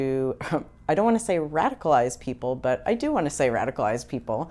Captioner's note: chuckles